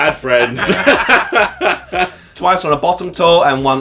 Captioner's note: laughing